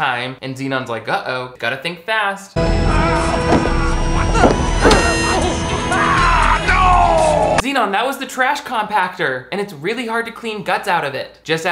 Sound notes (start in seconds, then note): 2.6 space shuttle engine ascending; 4.3 Zenon grunting; 4.3 button buzzing; 5.9 man yelling